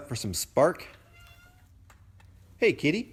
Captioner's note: meow